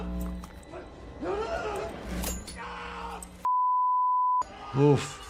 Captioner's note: victim screaming